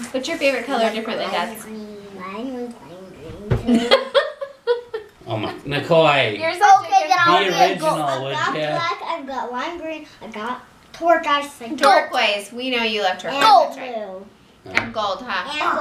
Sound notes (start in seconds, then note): 3.6 laughter